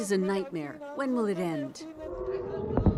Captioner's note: speaking alternate language